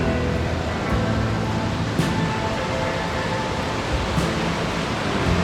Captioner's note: river rushing